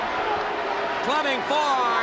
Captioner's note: crowd chatter